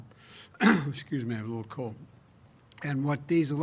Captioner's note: clears throat